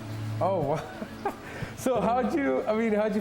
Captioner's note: laughs